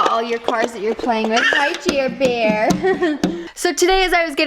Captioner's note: chuckles